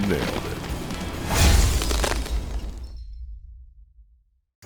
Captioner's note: glass shattering